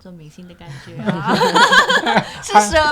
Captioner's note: laughter